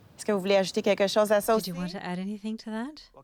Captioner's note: speaking French